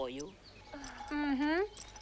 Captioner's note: sister giggles